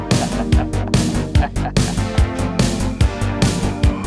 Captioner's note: laughing